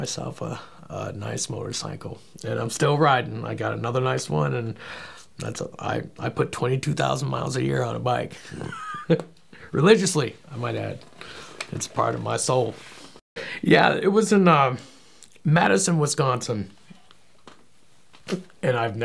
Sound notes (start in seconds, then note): 8.4 laughing